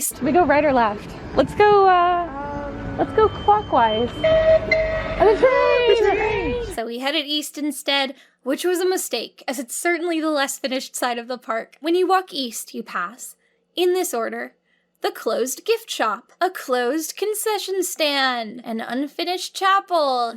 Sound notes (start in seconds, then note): 4.3 train whistle tooting